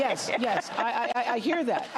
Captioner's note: laughter